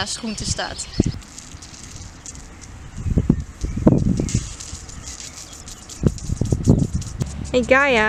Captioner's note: sprinkler turns on